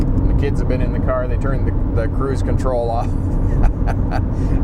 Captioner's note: laughs